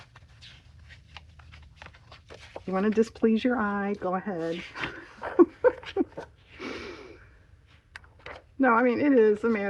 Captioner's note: laughs